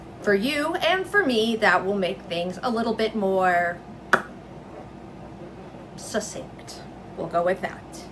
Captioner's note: obnoxious mouth pop